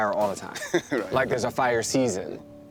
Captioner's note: chuckles